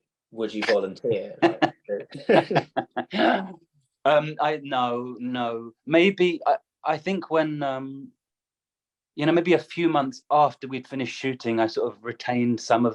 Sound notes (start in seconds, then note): 1.2 laughter